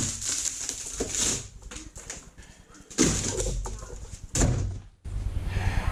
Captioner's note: back to the crunchy OSB noises